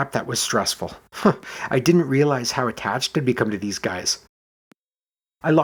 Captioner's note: chuckles